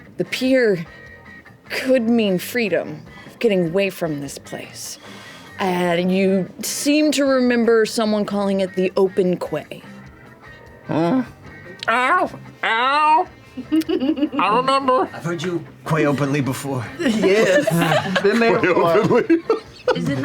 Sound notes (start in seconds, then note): 13.5 laughs; 19.7 laughs